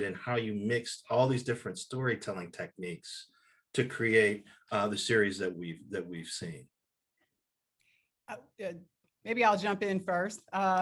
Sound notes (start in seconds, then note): none